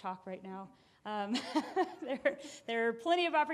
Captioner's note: laughing